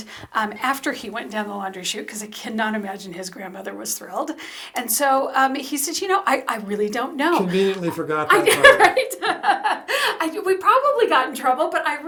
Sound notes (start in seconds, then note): 7.2 laughs